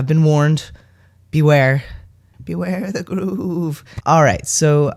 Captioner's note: shaking old man voice